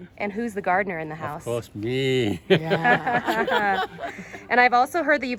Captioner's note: laughter